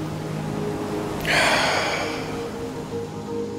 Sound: inhales; exhales

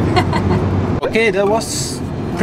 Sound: laughing

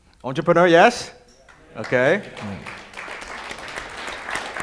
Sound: audience applause

